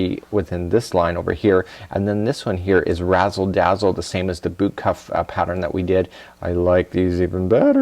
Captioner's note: in a high pitch; giggles